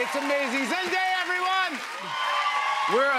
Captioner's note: cheers and applause